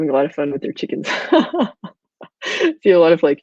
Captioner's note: laughing